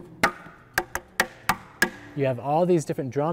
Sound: tapping

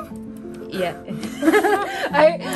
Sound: laughs

